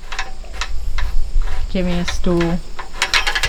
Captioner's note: clanking